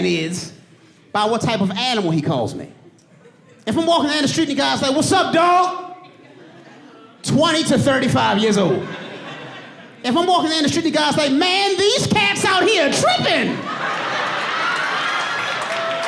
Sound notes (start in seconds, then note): 5.9 audience laughing; 14.4 audience laughing